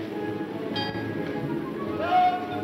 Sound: bell ringing

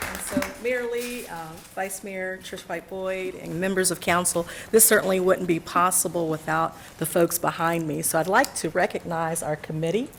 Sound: applause

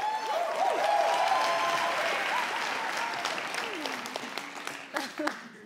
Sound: crowd cheering; crowd clapping; people laughing

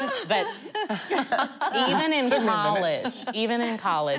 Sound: laughing

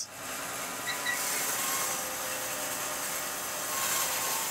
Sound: saw buzzes

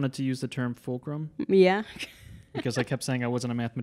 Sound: laughing

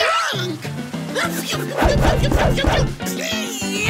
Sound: yelling

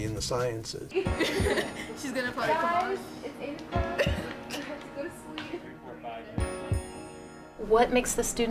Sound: students talking

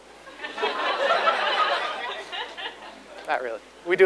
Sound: audience laughs

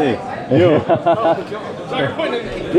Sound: laughing

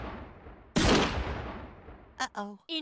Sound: gunshot

